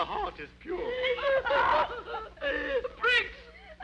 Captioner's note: women sobbing